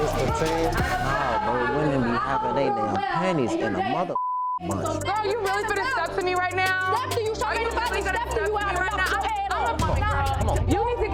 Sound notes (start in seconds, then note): 4.2 beeps